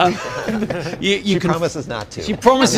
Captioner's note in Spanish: laughing